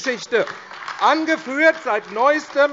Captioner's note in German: Beifall AfD